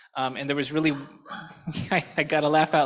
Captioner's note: laughter